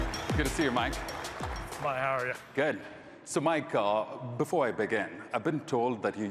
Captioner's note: applause